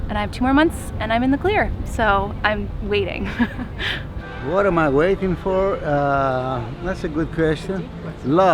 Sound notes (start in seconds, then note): 3.2 chuckles